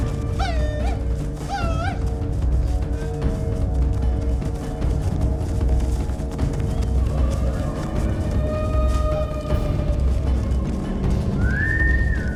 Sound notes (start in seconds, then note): 0.7 tribal calls